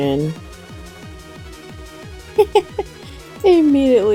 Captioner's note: laughs